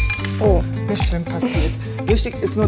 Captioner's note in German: Klirren